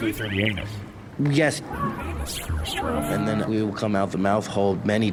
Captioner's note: quietly, somber